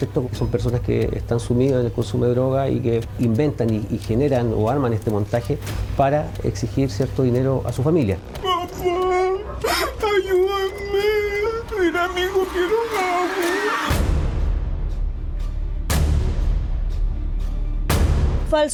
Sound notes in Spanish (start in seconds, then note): 11.4 lloros